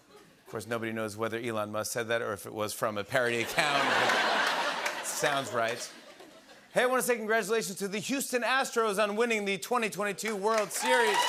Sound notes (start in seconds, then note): 3.4 laughter